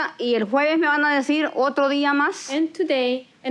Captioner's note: spanish continues